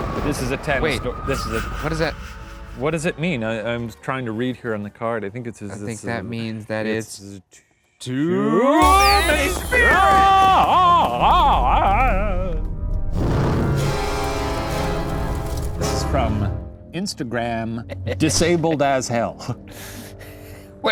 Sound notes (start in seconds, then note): 13.1 fire crackling; 13.1 dramatic music; 17.8 laughs